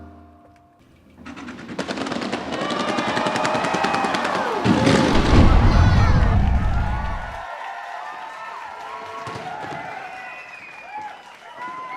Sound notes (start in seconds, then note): 1.3 fireworks; 6.7 cheering and applause